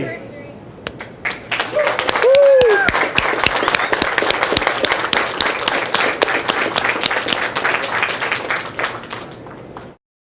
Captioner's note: applause, cheering